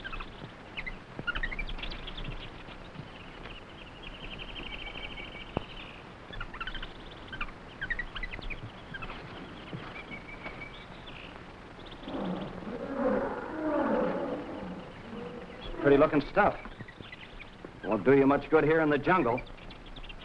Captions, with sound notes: (footsteps rustling) (jungle animals groaning) Pretty looking stuff. Won't do you much good here in the jungle.